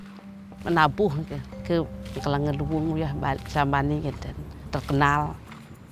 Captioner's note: speaks in a foreign language